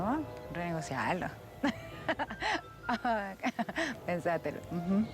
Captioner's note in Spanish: risas